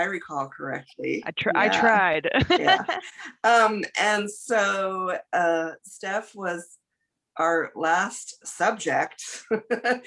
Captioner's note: laughs